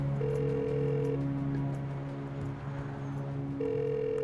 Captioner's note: phone line beeping